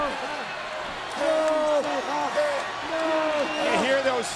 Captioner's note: crowd chattering